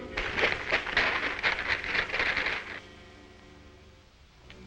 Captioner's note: branches rustling